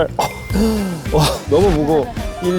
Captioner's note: chokes up